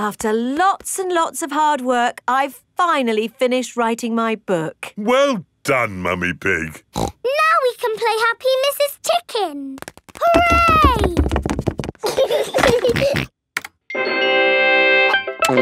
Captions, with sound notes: After lots and lots of hard work, I've finally finished writing my book! Well done, Mummy Pig! (SNORTS) Now we can play Happy Mrs. Chicken! Hooray! (GEORGE GIGGLES AND SNORTS) (VIDEO GAME MUSIC PLAYS)